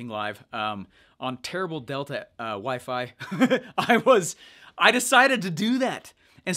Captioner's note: chuckles